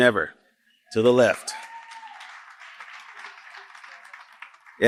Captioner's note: applause